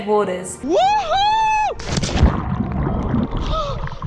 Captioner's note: yelling; gasping